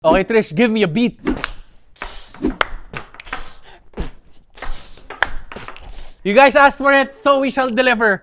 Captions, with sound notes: - Okay. Trish, give me a beat. (beatboxes) You guys asked for it, so we shall deliver.